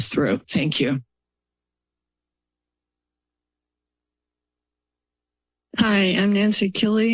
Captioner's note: silence